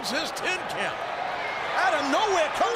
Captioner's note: crowd cheering